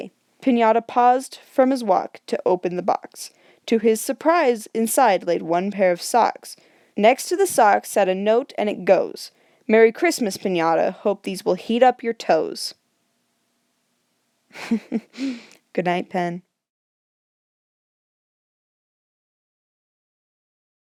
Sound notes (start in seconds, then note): 14.5 chuckles